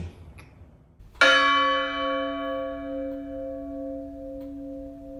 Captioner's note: bell chimes